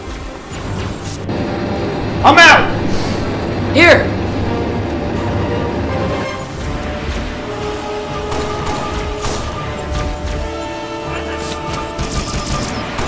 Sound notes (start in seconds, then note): 10.5 alien battle cry